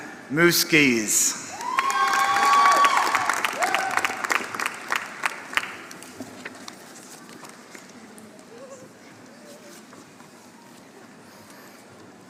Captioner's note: applause